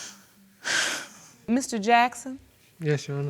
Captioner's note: sighs